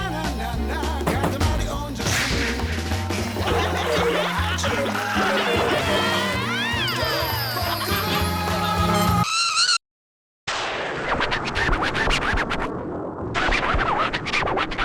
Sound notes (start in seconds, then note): 0.6 upbeat song playing; 5.9 cheering; 8.8 sudden screech; 10.6 thunder crashes; 11.0 record scratching